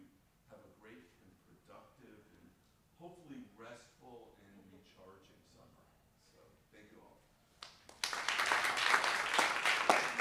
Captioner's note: applause